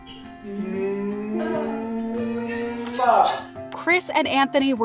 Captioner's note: extended kissing noise